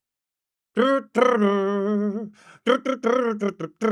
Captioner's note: humming